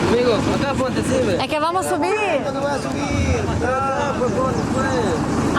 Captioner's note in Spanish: pessoas reclamando